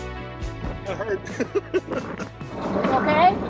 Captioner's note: chuckles